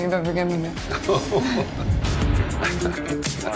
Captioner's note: Sylvester laughing; upbeat music